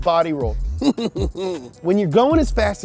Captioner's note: laughs